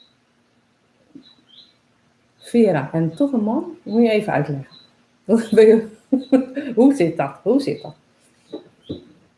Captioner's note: laughs